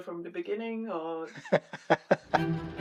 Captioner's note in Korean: 웃음